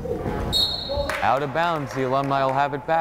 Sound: whistle blows

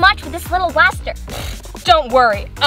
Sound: blows raspberry

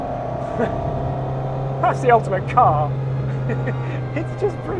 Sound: scoffs; laughs

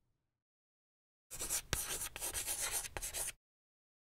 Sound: chalk writing

